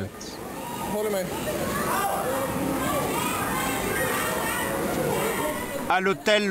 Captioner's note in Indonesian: suara gelombang air; suara kepanikan